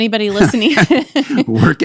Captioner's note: laughter